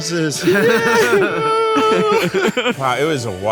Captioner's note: Zach cheers